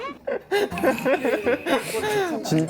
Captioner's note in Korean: 푸흡